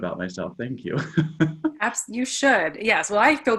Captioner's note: laughs